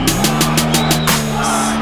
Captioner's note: fans chant